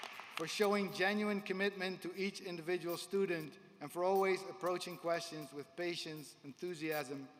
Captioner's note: applause